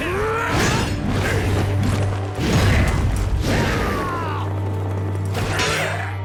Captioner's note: grunting